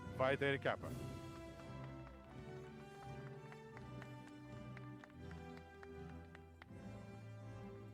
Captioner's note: applause